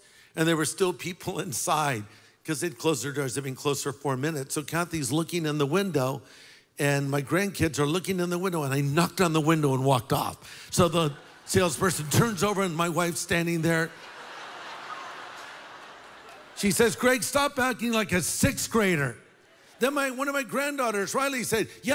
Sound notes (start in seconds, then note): 13.7 laughter